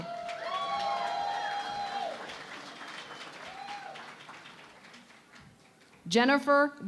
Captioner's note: cheering and Applause